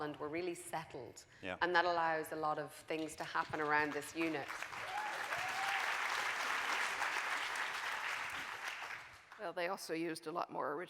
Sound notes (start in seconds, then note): 4.7 audience cheering